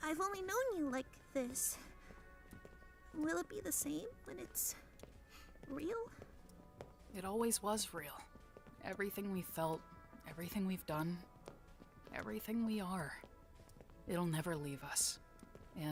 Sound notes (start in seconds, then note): none